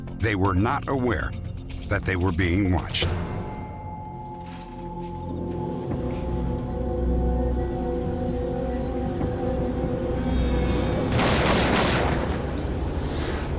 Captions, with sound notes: They were not aware that they were being watched. [gunshots]